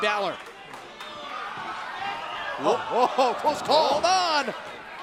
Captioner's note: crowd cheering